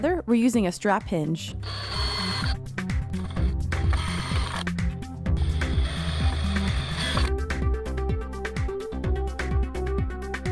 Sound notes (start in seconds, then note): 1.6 drill buzzes; 1.6 upbeat music